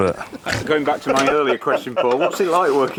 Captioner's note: laughs